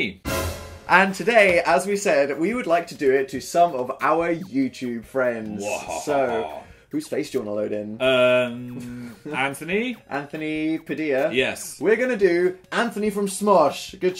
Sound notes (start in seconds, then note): 5.7 evil laugh